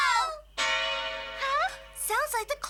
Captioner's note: clock bell ringing